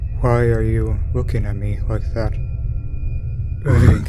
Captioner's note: emotionless